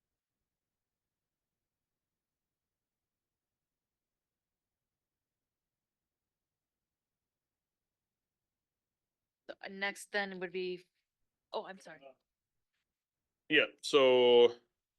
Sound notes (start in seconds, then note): 3.2 silence